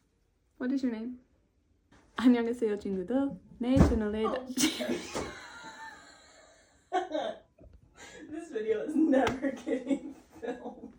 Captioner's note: dropping something in the background